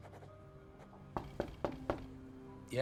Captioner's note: knock on door